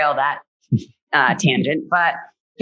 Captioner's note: laughs